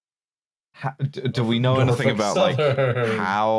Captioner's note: singsong